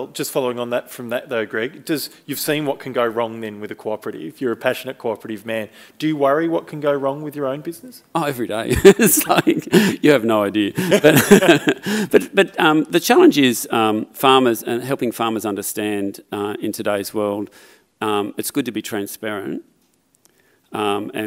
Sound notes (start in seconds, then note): 10.7 chuckles